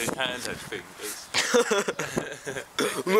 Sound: bad quality laughter; pretends to be doing a comedy laugh to disguise bad laughter

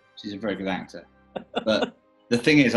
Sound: chuckling

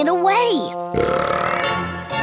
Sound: burps

